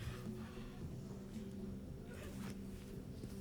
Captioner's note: none